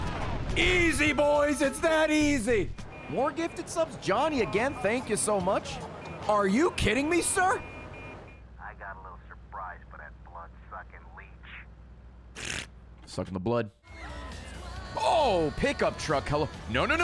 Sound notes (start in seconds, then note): 12.3 slurps